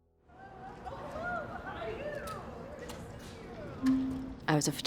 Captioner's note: people chattering